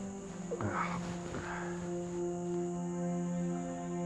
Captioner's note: grunts